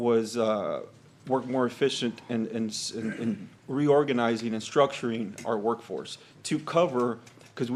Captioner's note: clears throat